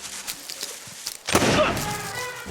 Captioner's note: gunshot